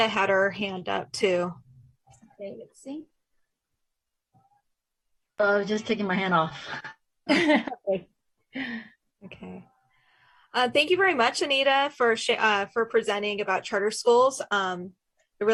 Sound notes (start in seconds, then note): 8.0 laughs